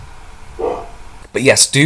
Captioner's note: bark